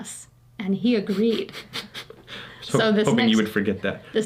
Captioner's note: chuckling